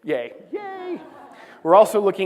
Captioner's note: laughter